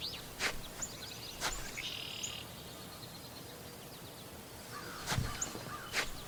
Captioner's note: birds chirping